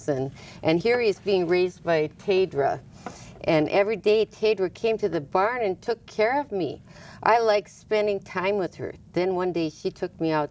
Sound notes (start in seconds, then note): none